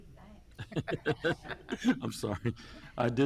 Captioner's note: chuckling